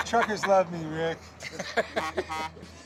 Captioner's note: laughter, horn honks